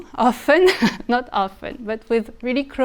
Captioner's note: speaker chuckling